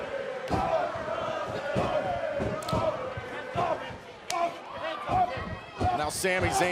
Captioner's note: fans chanting